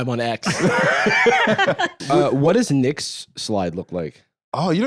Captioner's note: laughs